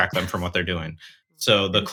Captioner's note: chuckles